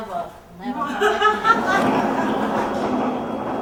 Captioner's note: laughing